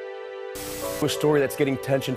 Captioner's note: television static noise